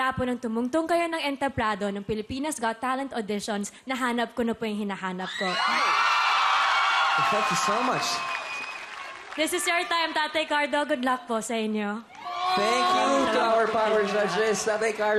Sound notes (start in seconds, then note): 5.3 crowd screaming, applauding